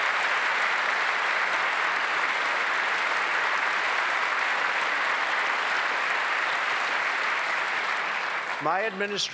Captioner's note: applause